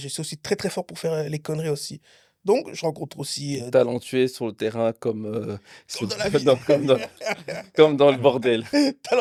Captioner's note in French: rires